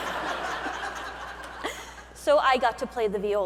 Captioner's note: audience laughing